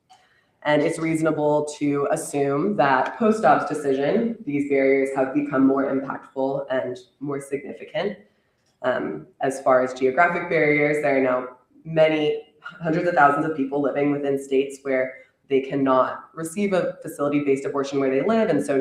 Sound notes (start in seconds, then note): none